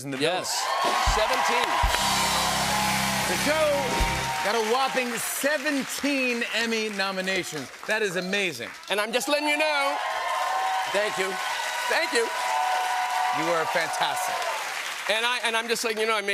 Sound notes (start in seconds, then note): 0.9 cheers and applause; 10.1 cheers and applause